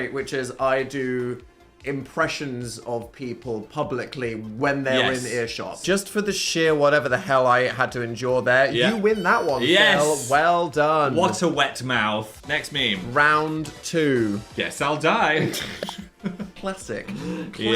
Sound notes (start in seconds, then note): 15.4 both laughing